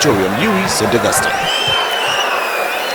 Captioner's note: wild applause and cheering for 22 seconds